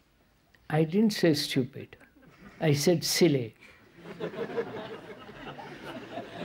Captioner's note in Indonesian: Tertawa